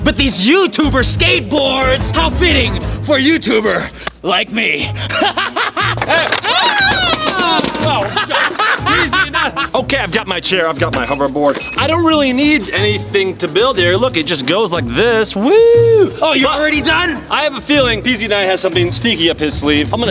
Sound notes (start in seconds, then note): 4.8 manic laughing; 6.4 screams; 8.8 manic laughing